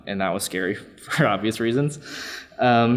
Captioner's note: laughs